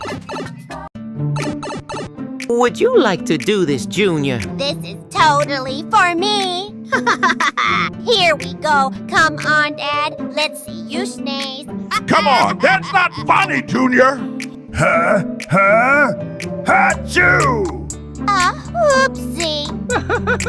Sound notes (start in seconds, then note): 6.9 Junior Laughing; 19.9 Mario Laughing